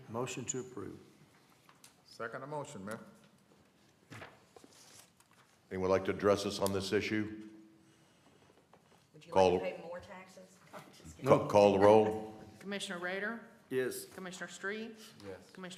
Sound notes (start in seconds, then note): 11.7 laughter